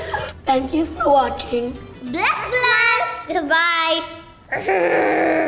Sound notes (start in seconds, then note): 4.5 growling